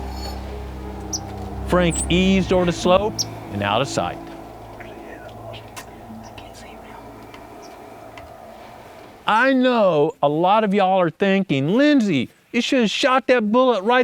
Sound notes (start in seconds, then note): 6.2 whispering